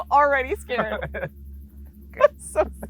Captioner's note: both laughing